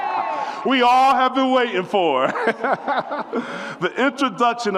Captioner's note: audience whoops and cheers; laughs